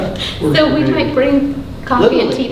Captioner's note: laughing drowns out speaker